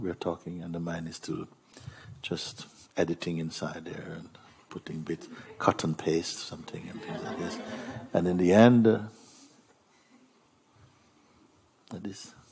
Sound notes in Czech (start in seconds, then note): 6.7 smích